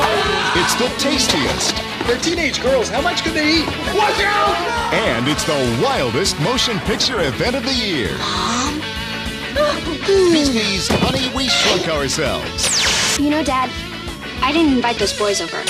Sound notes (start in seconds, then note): 0.0 screaming; 8.0 sighs; 9.3 laughing